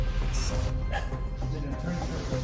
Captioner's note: chuckles